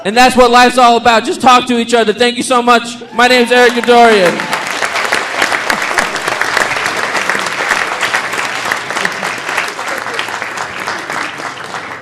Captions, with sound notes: and that's what life's all about. Just talk to each other. Thank you so much. My name's Eric Didorian. (audience applauding)